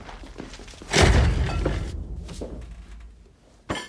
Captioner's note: body thumps